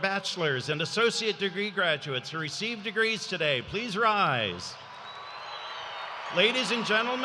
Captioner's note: cheers and applause